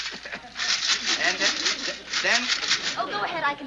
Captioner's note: coins jingling